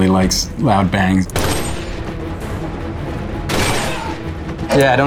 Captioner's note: gun firing